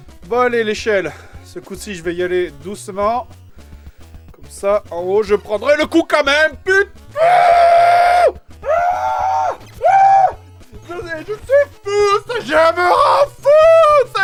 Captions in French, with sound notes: Bon allez , l'échelle ! Ce coup-ci je vais y aller doucement ! Comme-ça en haut je prendrais le coup quand même ! PU... *hurlements* *hurlements* *hurlements* CE JEU ME REND FOU !!!!!